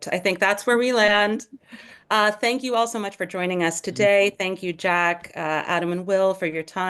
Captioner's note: laughs